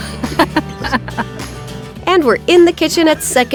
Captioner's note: both laughing; upbeat music continues